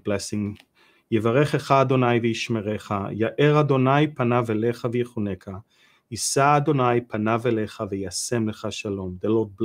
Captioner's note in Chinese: 用希伯来语做亚伦的祝福